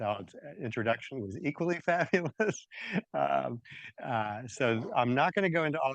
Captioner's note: laughs